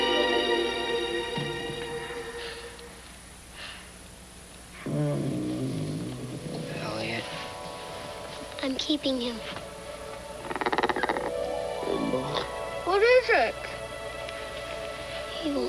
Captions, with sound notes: (E.T. groaning softly) - Elliott. - I'm keeping him. (E.T. groaning softly) - What is it?